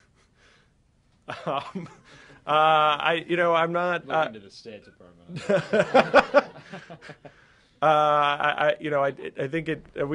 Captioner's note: laughter